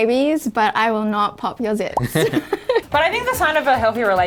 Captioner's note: laughing